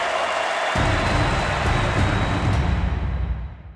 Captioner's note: crowd cheering